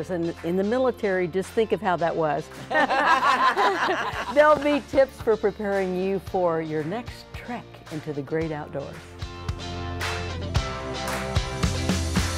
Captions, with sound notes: And in the military, just think of how that was. (ladies laughing) - Build me tips for preparing you for your next trek into the great outdoors. (energetic music)